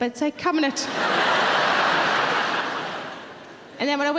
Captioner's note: audience laughing